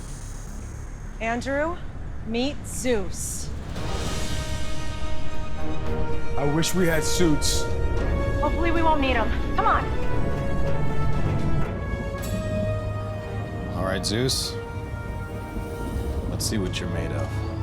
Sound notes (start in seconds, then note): 3.6 thunder crashing